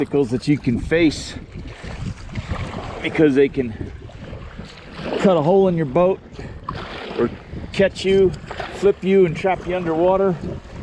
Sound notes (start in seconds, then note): 8.8 paddles moving water